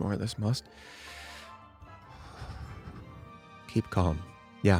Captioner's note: inhales and exhales deeply